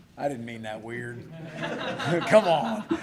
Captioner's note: laughter